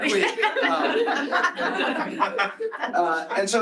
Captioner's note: laughter